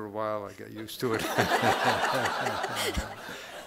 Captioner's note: everyone laughing